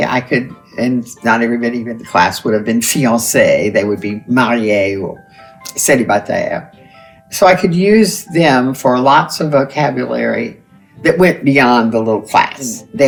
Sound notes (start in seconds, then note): none